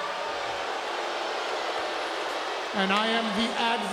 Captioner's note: crowd booing